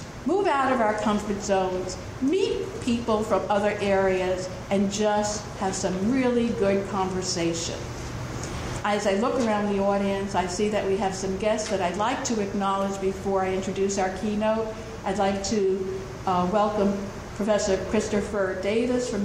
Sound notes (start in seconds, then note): none